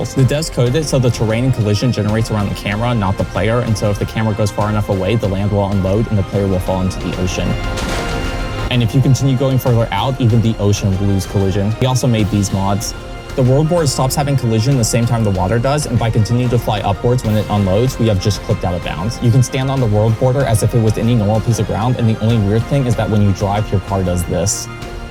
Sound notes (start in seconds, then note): 7.5 splash sound